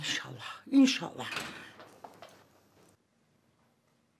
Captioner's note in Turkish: Kapı kapanma sesi